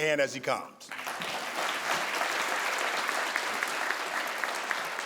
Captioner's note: crowd applauds